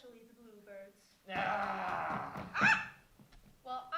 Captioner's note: shouts in Florida